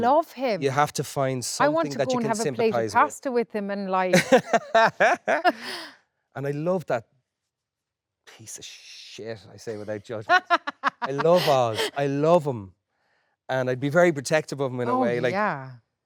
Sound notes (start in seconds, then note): 4.1 Colin laughing; 10.2 Jessie laughing